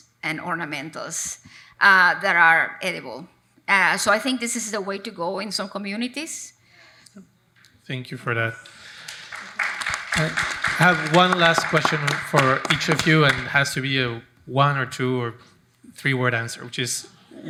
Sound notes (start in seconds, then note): 8.6 audience applauding